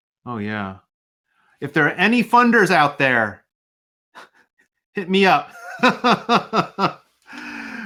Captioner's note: laugh